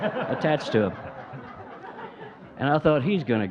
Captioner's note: audience laughing